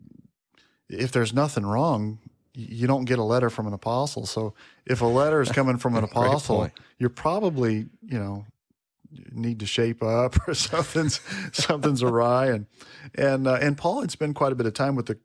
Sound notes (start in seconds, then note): 10.3 chuckles